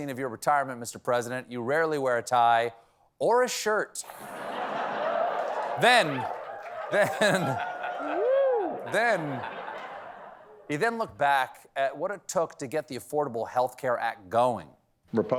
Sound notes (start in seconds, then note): 4.1 laughter